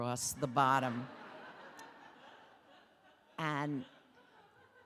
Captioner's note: audience laughing